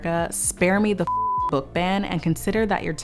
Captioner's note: beep